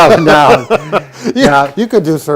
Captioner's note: both laugh